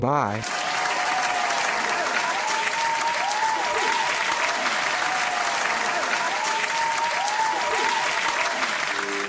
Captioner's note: applause